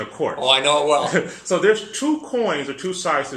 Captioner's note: laugh